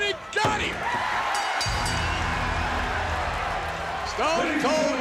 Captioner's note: bell dinging